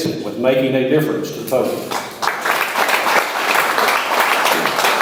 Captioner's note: audience applauds